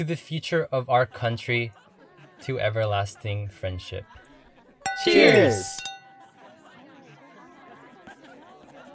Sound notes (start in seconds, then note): 4.8 glasses clinking